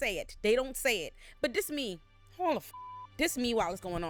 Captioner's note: beep